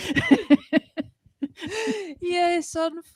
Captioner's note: laughter